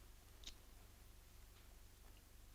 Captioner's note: lighter clicks